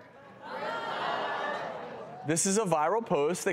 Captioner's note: audience talking